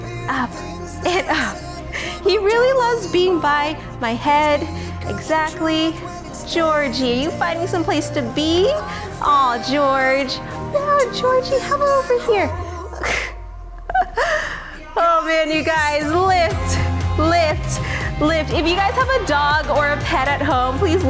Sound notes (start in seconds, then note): 12.3 laughing